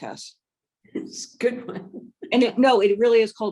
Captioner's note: chuckles